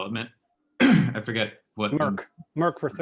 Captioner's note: coughs